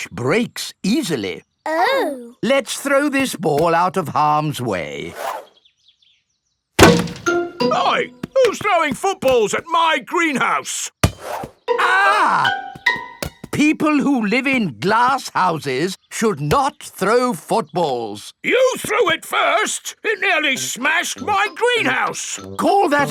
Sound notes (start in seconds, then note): 6.8 thuds; 11.8 screams